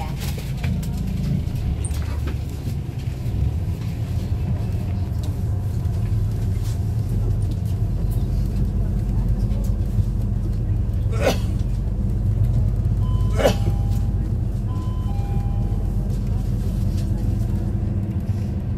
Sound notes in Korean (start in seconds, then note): 13.6 하차벨 소리